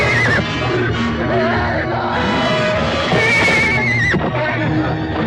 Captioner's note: Papers screaming